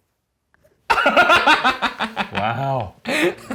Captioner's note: laughs